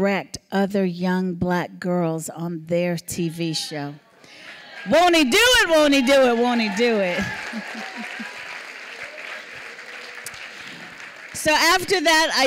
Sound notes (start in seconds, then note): 7.6 applause